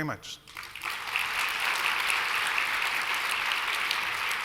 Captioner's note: applause